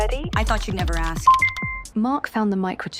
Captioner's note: computer dings